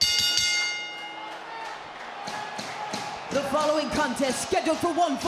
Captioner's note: bell ringing